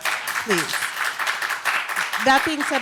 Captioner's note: audience applause